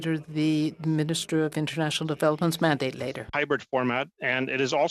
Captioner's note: speaking French